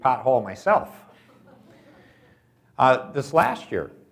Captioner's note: audience laughs